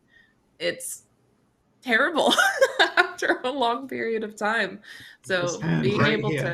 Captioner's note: chuckles